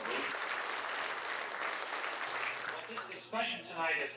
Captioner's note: group applauding